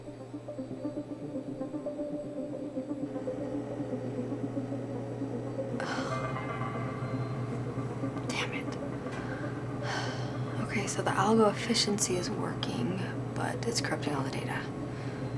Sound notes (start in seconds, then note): 5.6 groans softly